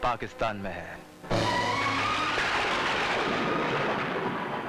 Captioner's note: Thunder rumbling